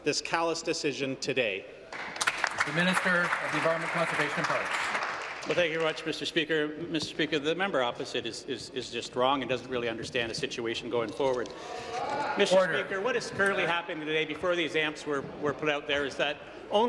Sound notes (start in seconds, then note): 5.4 applause